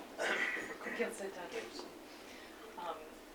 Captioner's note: non-english speech